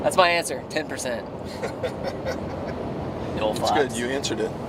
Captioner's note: laughter